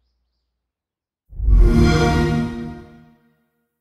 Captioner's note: xbox sound